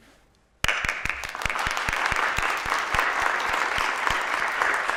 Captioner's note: applause